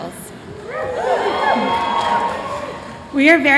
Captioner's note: cheers